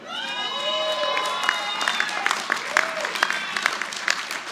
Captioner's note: audience applauding